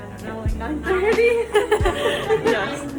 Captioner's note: both laugh